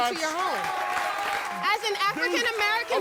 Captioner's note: crowd applauds